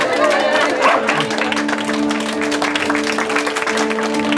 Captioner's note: applause